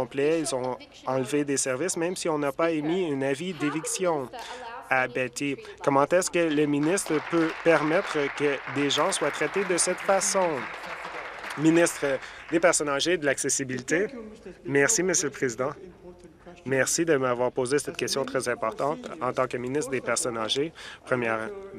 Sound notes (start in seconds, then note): 10.0 applause